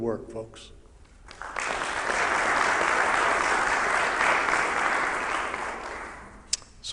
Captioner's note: applause